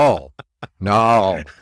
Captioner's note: laughs